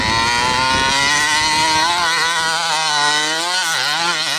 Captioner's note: wind blowing; motor revving